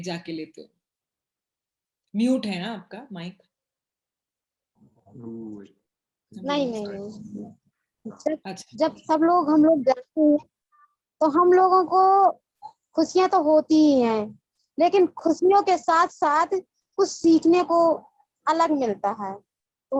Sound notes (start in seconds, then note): 5.3 speak foreign language; 8.7 speaks foreign language